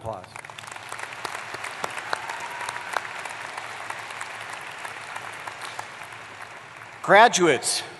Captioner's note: applause